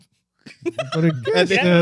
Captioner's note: laughter